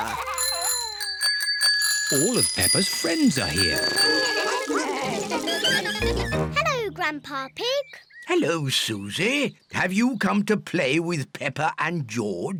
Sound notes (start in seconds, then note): 0.0 bells ring; 2.6 all chatter